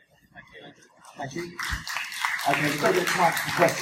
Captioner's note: audience applause